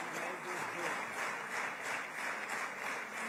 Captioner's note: applause